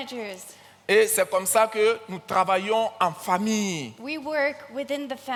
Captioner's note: continues in French